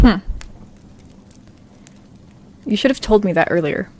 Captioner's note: fire crackles